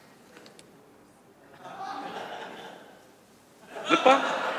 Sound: laughter

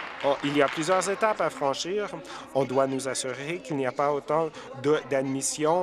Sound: applause

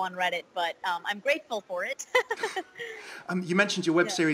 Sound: laughs

